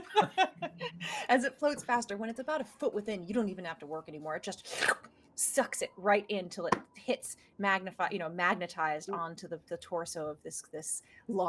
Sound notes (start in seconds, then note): 0.0 laughing; 4.7 makes slurp noise with mouth